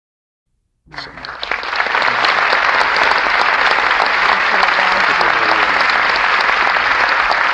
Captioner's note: applause